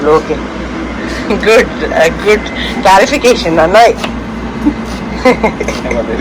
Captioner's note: laughs